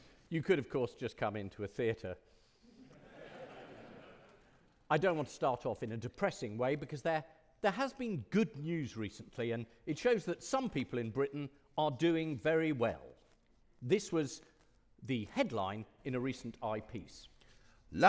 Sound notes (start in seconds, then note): 2.9 audience laughing